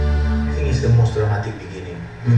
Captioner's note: voiceover